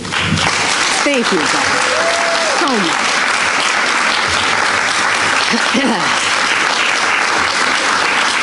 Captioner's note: applause